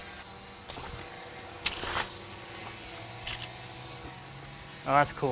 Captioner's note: water splashing